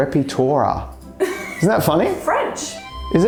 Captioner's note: laughs